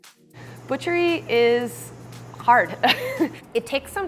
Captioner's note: laughs